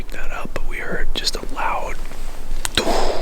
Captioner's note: exhaling